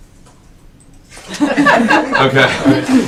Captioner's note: laughing